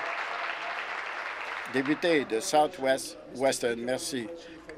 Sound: applause

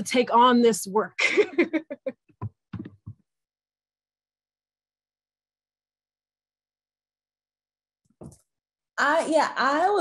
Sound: chuckles

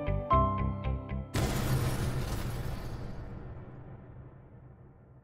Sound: light explosion

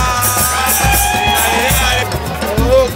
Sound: men chanting and singing in Spanish; bicyclists shouting

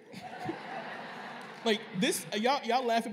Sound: laughter

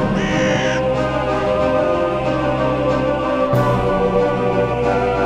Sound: birds cawing; dramatic music continues

